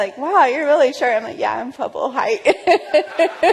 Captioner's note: laughter